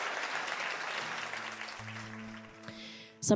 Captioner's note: applause